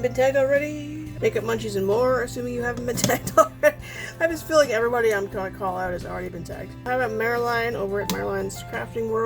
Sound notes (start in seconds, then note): 3.2 laughs